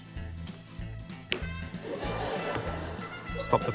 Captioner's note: laughter